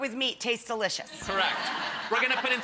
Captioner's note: audience laughing